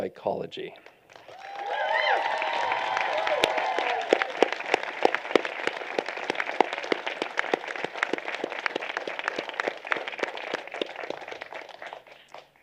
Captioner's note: applause